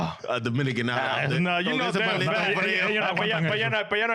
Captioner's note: speaking In Foreign Language